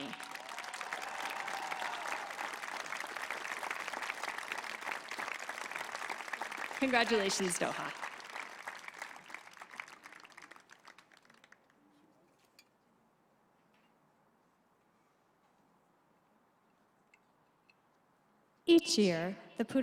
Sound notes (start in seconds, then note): 2.4 applause; 2.4 cheering